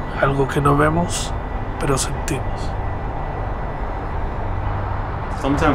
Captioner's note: narrator continues to speak Spanish